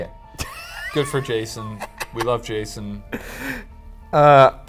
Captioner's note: laughs